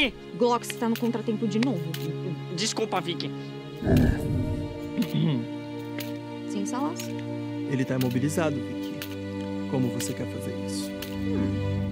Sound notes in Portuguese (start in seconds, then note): 4.9 limpa a garganta